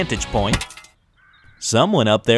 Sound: metal clanks

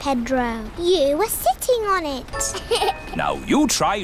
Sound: laughs

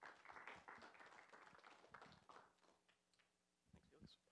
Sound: applause

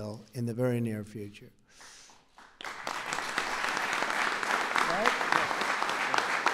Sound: applause

